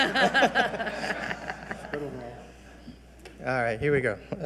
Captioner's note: all laughing